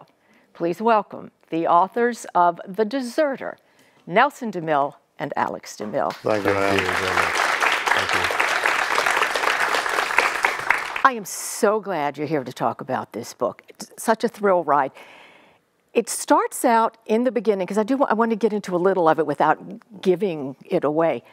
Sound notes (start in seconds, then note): 6.1 audience applauding